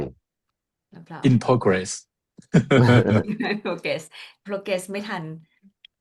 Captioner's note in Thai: เสียงหัวเราะ